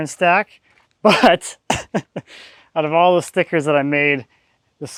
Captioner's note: laughs